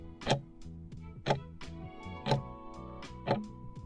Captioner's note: timer ticking